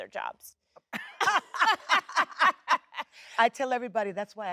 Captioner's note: Jennifer and Sheryl Lee laughing